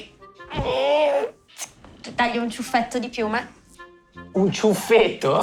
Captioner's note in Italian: Rumore di forbici